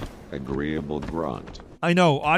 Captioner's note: automated Voice